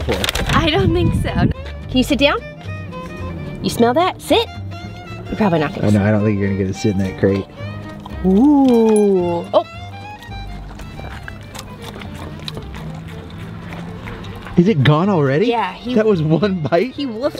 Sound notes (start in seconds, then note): 11.9 eating sounds